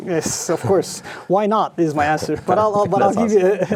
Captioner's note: laughing